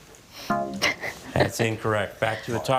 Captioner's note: laughing